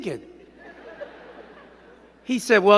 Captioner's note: crowd giggling